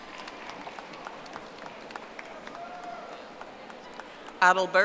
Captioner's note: audience applauding